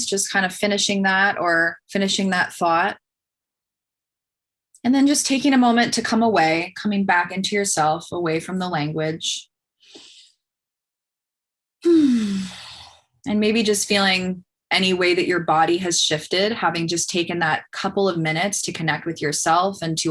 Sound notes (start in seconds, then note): 11.8 sighs